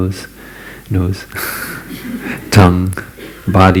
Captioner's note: laughter